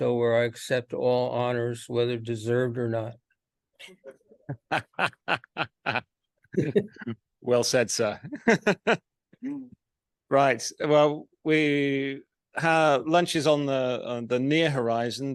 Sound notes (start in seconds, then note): 4.5 panel laughs; 8.3 laughs